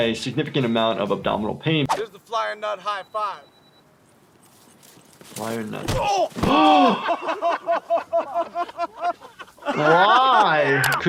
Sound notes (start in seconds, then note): 6.6 doctor gasps; 9.2 Jackass crew laughs